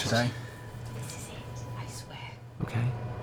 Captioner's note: whispering